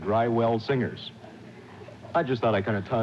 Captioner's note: audience laughing